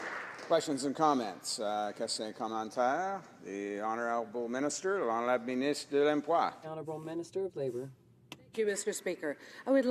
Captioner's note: applause